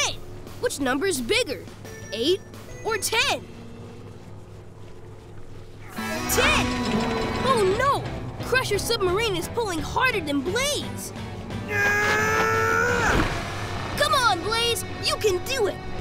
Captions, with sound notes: Which number is bigger, eight or ten? Ten! Oh no, Crusher's submarine is pulling harder than Blaze! [grunting] Come on Blaze, you can do it.